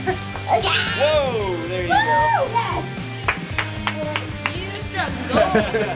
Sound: cheering

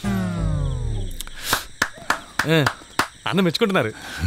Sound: clapping

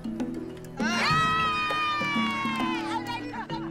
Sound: applause and cheers

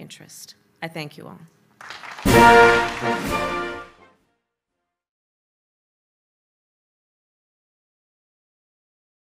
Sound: applause

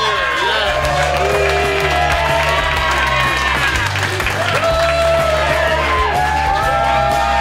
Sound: groans; crowd applauds; crowd cheers

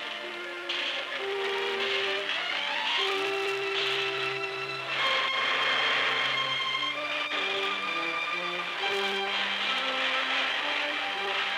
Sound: sounds of machinery

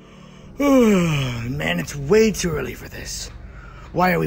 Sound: yawns

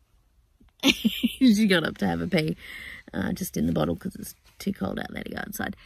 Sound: laughing

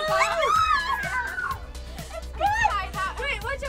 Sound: cries out

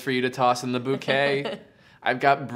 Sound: laughs

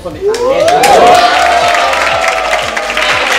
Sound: cheers

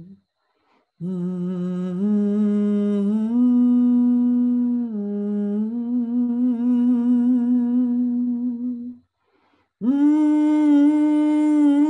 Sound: humming

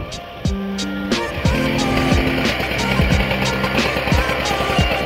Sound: saw whirring

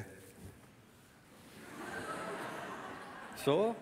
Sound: laughter from the audience

